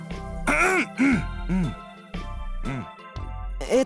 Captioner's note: awkward coughing